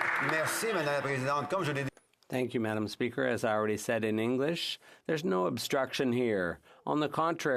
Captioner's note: some Applause